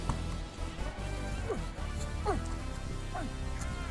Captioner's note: grunting